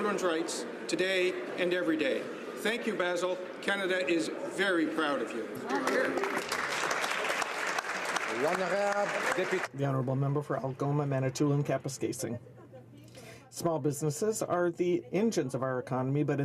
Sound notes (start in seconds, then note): 8.9 some Applause